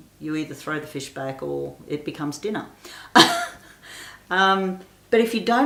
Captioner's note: laughs